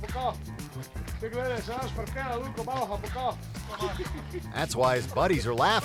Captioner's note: men speaking in foreign language